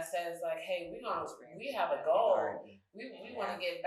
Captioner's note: speaking faintly